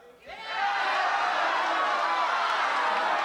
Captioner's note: crowd shouting